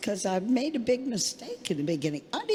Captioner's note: none